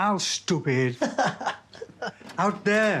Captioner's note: laughs